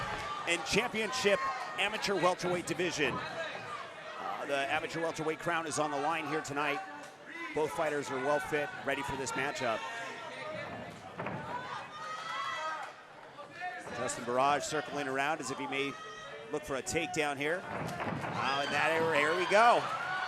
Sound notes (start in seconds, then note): 11.4 audience cheering